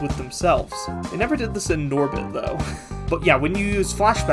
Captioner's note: laughs